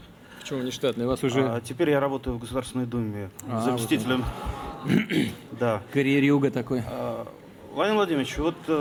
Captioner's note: laughter